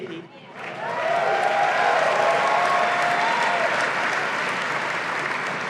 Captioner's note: clapping